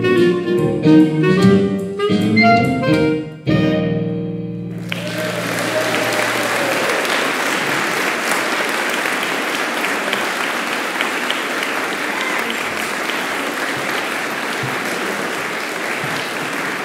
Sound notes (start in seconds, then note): 4.8 applause